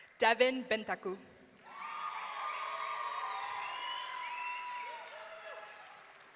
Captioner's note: audience cheering